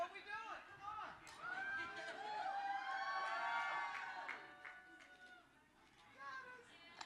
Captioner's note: cheering